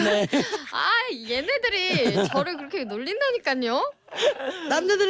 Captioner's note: losing their shit